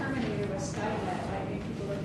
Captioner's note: faintly speaking